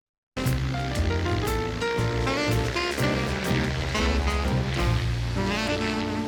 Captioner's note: upbeat music; plane whirs